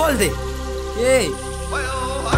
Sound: in Hindi

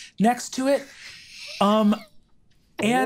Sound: players laughing

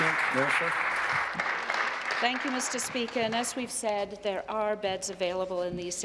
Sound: applause

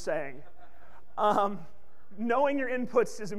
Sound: laughs

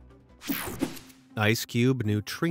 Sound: logo whooshing

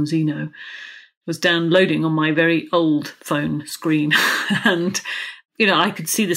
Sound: laughs

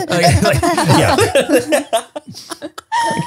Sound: everyone laughs

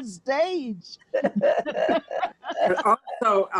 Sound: all laughing

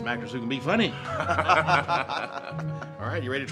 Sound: Gates and Chad laugh

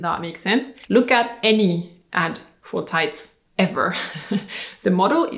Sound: chuckles

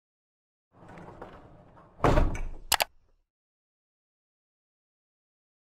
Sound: rumbling and clicking

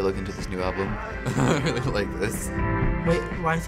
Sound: laughs

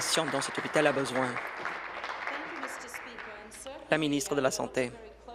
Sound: applause

